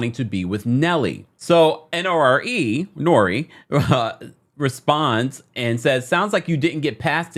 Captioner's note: laughs